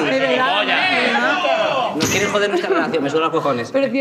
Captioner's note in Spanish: gritan